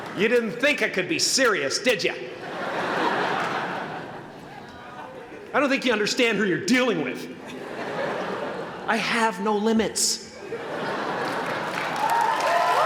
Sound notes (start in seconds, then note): 7.4 laughter; 10.3 laughter; 11.2 applause